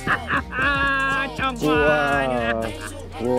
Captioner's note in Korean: 오열